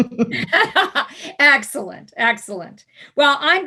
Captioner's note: laughing